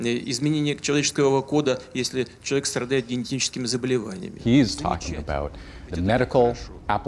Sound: speaking russian

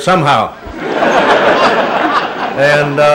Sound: laughter

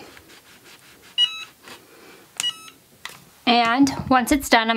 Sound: hat press beeps

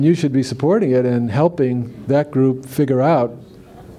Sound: laughter

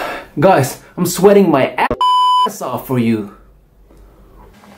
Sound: beep

